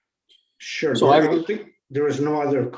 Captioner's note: indistinct conversation